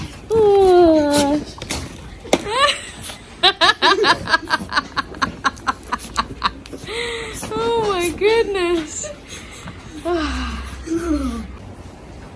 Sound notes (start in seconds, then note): 3.3 laughs a lot; 9.0 sigh happily